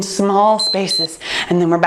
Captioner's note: timer beeps